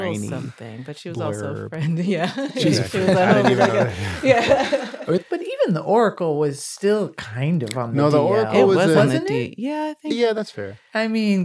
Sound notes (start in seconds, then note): 2.3 laughing